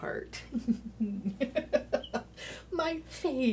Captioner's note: laughing